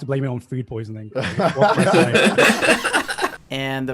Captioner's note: laughing